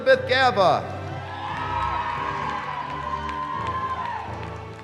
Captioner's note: cheering